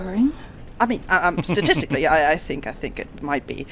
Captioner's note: stammering